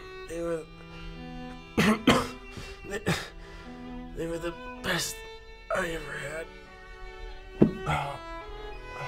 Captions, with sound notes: They were the... *coughs* they were the... best.. I ever had.